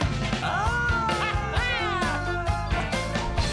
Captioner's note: laughing